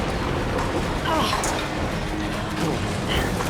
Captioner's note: grunt